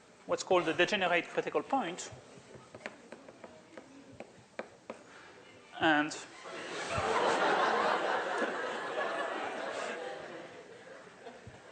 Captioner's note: laughter